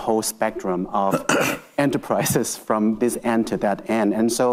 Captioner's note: laughs